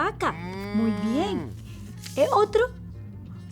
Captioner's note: cow moos